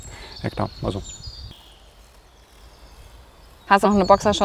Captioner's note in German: Vogelzwitschern